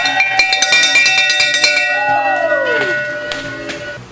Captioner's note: crowd cheering